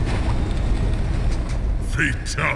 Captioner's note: eeeeeeeuugghhhh